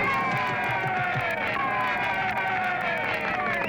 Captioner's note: crowd cheering